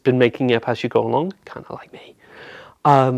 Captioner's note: whispers